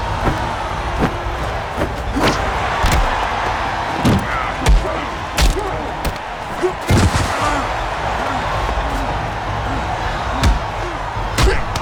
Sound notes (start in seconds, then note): 4.2 grunting; 10.4 both grunting